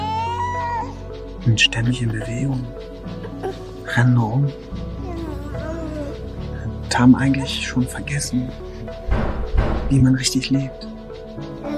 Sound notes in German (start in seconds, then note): 0.0 Baby Laute; 4.9 Baby Laute; 8.9 Schweres Türklopfen im Hintergrund; 11.5 Baby Laute